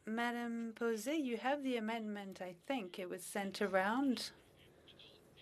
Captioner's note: speaking French